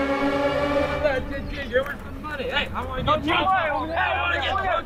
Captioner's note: young guys fighting in background